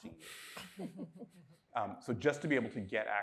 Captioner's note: person chuckles